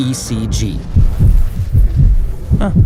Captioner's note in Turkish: kalp atişi